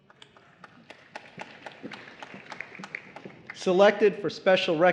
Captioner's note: applause